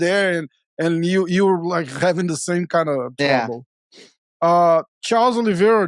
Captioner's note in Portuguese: risos